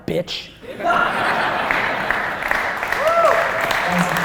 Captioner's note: laughter and applause